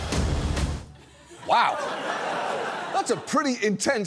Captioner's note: audience laughs